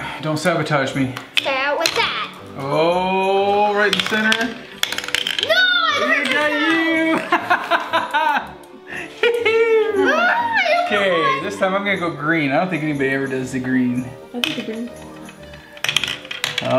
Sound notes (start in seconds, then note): 5.5 shouting; 7.1 laughing